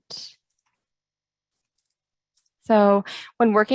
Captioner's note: keyboard typing